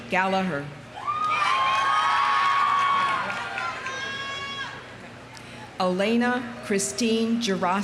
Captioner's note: audience cheering; audience applauding